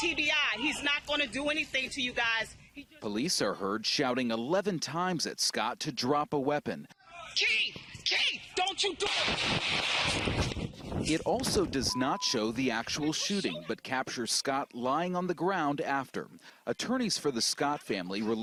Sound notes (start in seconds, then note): 9.0 shots